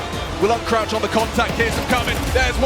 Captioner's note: gun firing